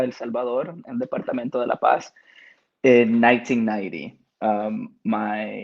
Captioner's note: speaking Spanish